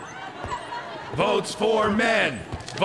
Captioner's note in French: Homme 1/homme 2 scandant